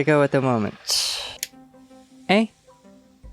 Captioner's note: click